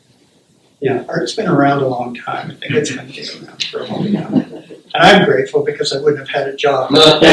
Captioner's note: laughter